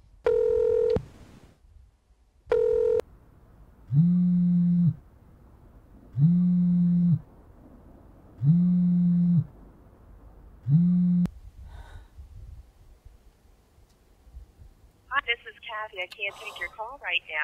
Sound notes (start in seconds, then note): 0.2 outgoing ring; 3.9 phone vibrates; 16.3 sigh